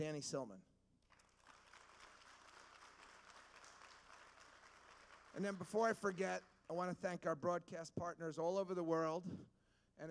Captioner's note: applause